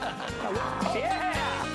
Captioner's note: laughter